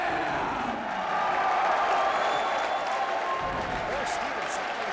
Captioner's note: crowd cheering